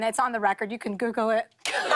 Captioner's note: voice breaking; laughter